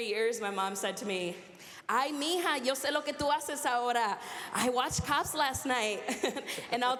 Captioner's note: speaking spanish